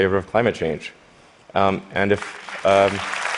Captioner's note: applause